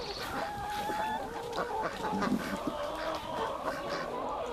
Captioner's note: geese cackling